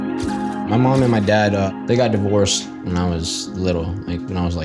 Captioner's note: soft music playing; in English